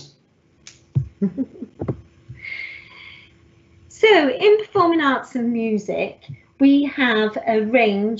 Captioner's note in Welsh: Chwerthin